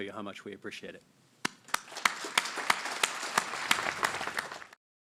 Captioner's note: applause